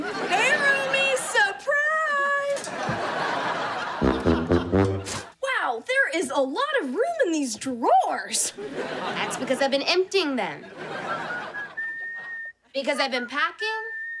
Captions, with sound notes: Hey, roomie! Surprise! [laughing] [playing trombone] Wow, there is a lot of room in these drawers! That's because I've been emptying them. [whistling] Because I've been packing.